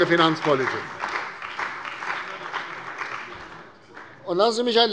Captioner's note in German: Beifall bei der CDU und dem BÜNDNIS 90/DIE GRÜNEN